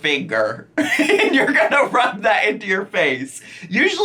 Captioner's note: laughs